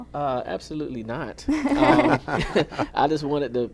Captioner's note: laughter